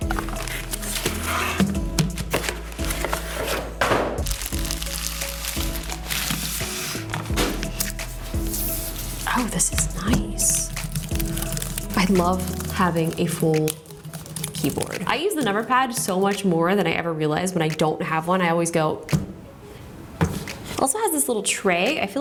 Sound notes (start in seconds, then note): 0.1 unwrapping noises continue; 2.8 box bangs on the floor; 4.1 plastic crinkles; 10.8 keys clacking; 19.1 finger thuds